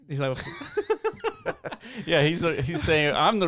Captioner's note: laughing